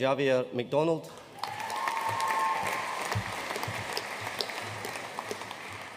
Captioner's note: audience cheering and applauding